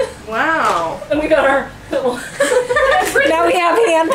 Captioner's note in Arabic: يضحك